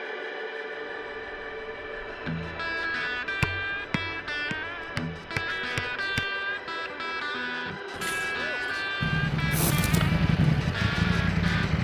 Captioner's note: motorcycle engine revving